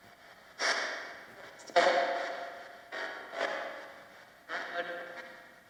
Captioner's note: static crackles; ghostly male voice warbles